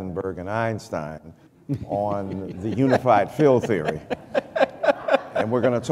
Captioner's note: laughter